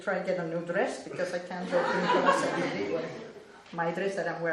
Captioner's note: laughter